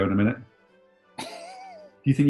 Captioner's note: chuckling